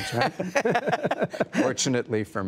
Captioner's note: laughter